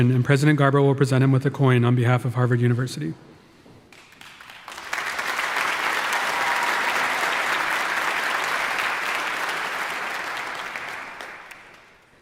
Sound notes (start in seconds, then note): 3.9 audience applauding